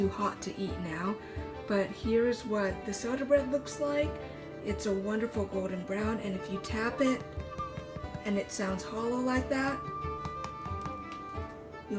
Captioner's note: tap, tap; tap, tap, tap